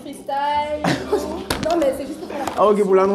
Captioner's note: rires